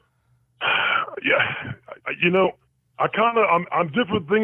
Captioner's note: sighs